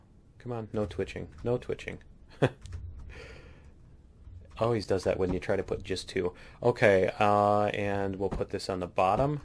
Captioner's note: laughs